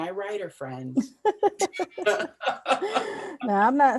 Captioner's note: laughter